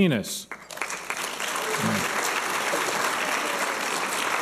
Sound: applause and cheers

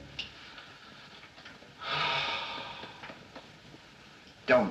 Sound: deep Sigh

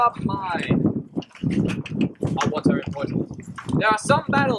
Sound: tsks

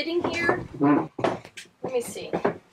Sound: chair dragging

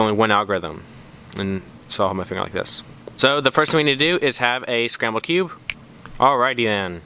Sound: snap

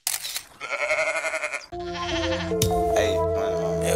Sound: goat sounds

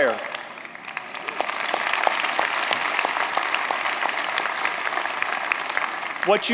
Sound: applause

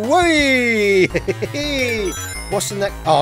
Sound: laughs

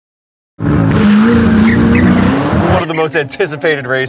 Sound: car Engine Revving

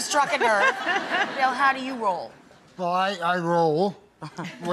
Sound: laughter

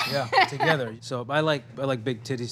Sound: laughing

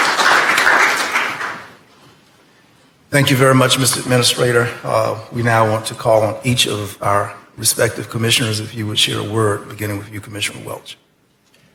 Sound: applause

